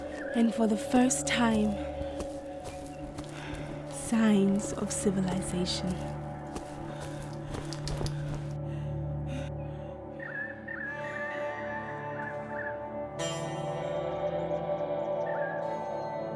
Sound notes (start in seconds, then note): 9.5 birds chirping; 10.7 steady ominous music